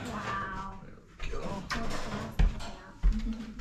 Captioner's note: clattering